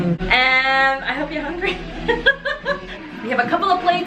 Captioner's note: laughs